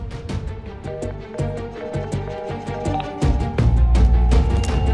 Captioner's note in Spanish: Tono de ocupada